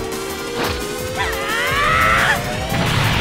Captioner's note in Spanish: Gritos